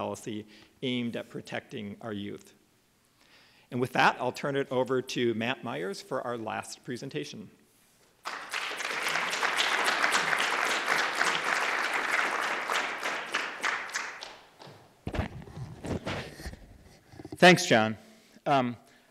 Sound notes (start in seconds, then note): 3.9 applause